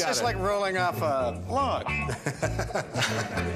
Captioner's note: chuckles